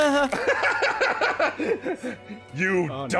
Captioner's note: sympathetic laughter; despairing laughter at the natural 1